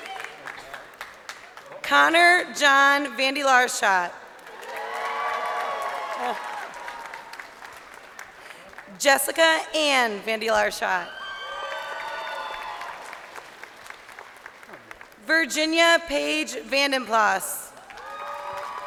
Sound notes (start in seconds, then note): 0.0 crowd cheering; 8.3 crowd cheering; 15.4 crowd cheering